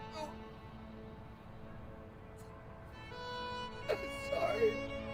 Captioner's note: weeping